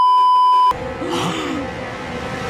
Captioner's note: beeeeeep; Micah, She-Ra, Swift Wind & Bow all gasp